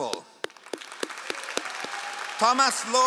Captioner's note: all applauding